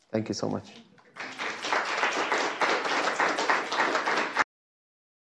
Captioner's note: crowd applauds